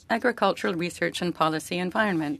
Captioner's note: speaking French